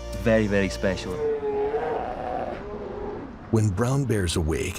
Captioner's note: bears growl